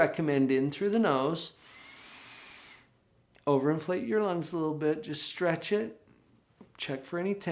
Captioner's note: inhales